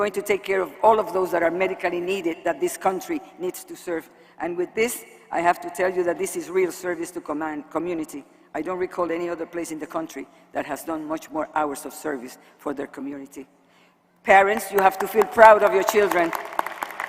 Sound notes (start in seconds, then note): 14.6 applause